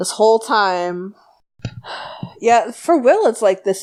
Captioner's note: sighs